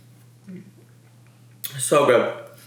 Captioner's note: chews